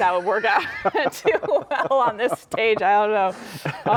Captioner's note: laughing